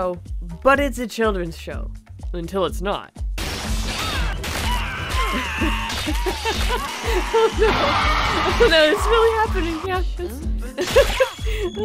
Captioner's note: laughing